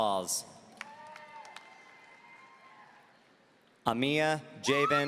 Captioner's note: audience cheering